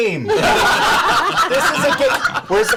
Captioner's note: laughter